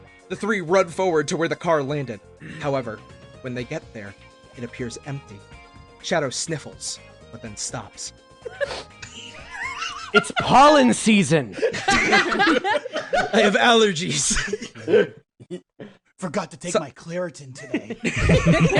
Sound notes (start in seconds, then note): 8.6 sniff